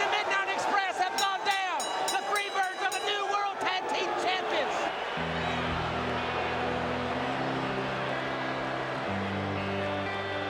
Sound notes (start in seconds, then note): 3.7 bell ringing; 9.6 crowd cheering